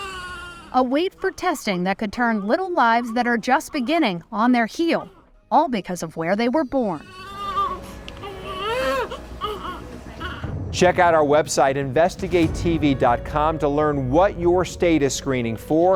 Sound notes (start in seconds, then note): 8.1 baby crying continues